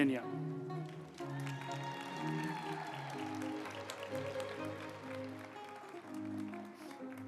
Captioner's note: uplifting music; group applauding